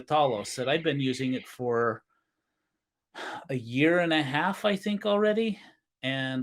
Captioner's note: sighs